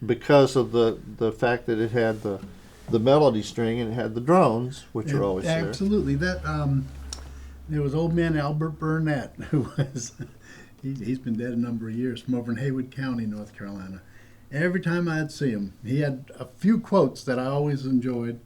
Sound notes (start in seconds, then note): 9.3 laughter